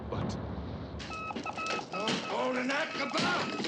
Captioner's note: beeping